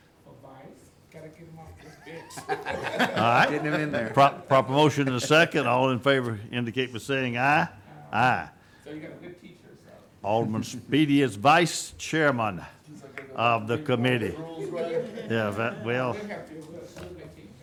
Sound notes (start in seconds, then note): 1.8 group laughing; 12.8 group talking